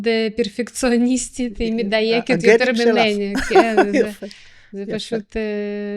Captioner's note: laughter